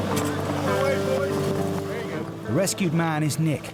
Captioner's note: crew chattering